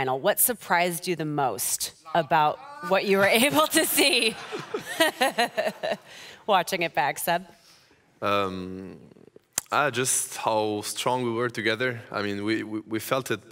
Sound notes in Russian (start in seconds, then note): 5.3 смех